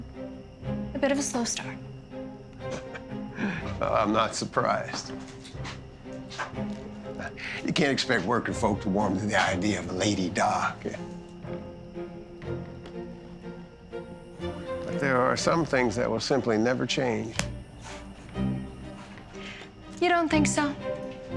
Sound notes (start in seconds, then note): 2.6 chuckles; 12.1 strained music